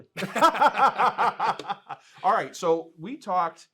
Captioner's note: laughs